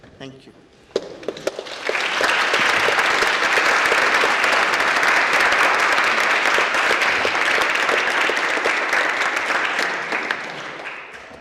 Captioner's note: applause